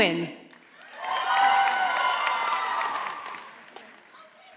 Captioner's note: audience applauding